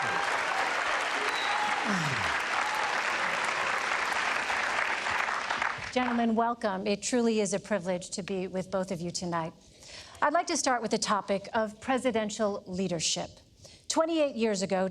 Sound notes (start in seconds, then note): 0.0 applause; 3.2 cheering